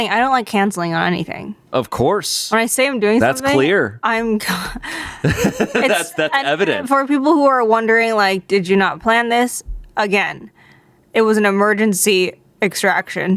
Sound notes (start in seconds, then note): 4.8 laughs